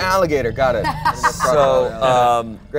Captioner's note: laughs